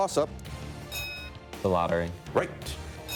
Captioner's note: bell dinging